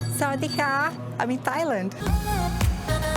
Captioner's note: hello in Thai